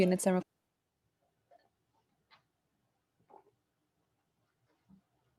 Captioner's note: audio Cuts Out